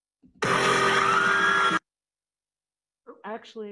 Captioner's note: music blares; crowd screaming